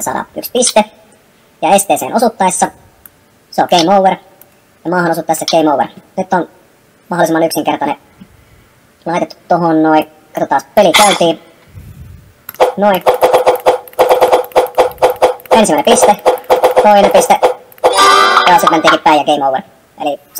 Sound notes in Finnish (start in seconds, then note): 12.6 äänitehosteita